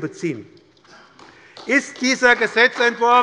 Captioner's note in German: Beifall bei der SPD